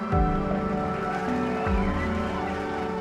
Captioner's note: applause, cheering